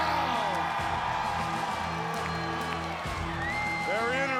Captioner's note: audience cheering; dramatic music